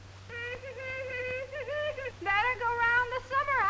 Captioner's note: Pandora humming